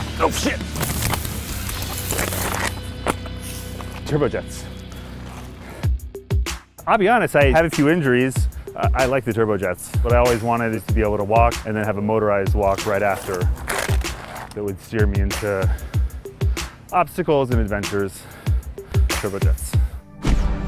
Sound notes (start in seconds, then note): 5.7 uptempo music; 12.9 loud scraping